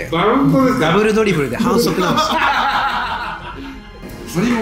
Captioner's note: laughs